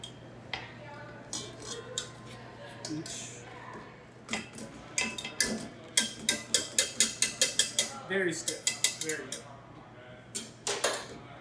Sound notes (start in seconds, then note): 1.4 rubber spatula scraping against the bowl; 5.9 whisk clanking against the bowl